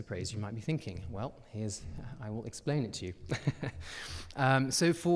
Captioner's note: chuckles